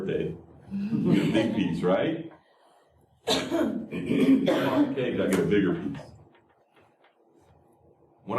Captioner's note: laughter